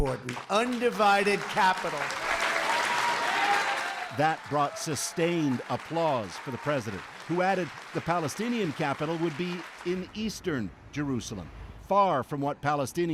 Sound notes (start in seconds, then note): 2.4 applause